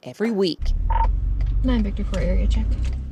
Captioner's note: radio beeping